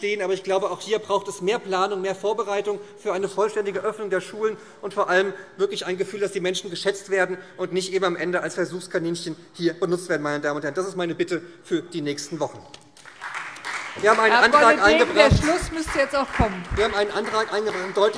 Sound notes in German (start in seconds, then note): 12.9 Beifall SPD